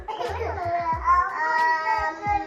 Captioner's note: baby sounds